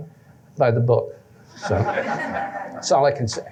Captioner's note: laughter